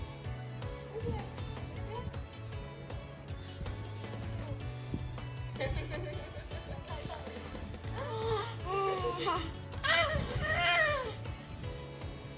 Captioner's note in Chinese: 笑得超開心